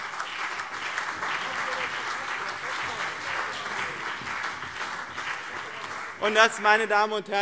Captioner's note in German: Beifall BÜNDNIS 90/DIE GRÜNEN und CDU